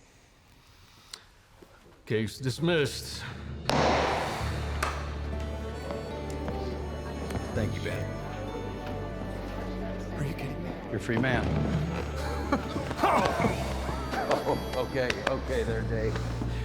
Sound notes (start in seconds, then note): 3.7 strikes gavel; 4.7 claps hands